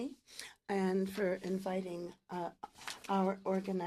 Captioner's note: speaking French